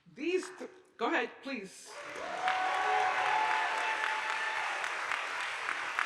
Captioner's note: audience applauding